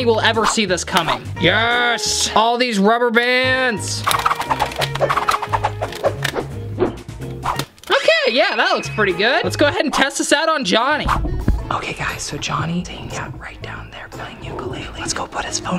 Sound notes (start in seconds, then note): 4.3 sound effects; 11.0 whispering